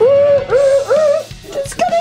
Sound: argh!!!!!!

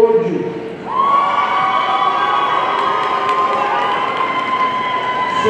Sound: audience cheering

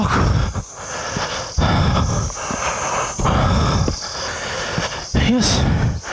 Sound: deep Breathing

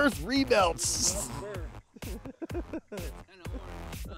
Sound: laughs

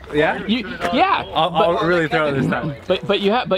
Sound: man chuckles

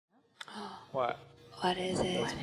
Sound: scientist 1 gasping

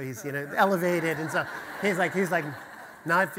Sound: audience laughter

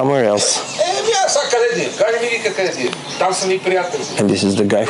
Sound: Man speaking Bulgarian

